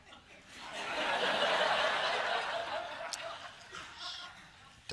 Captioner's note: laughter